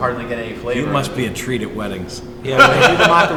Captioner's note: laughs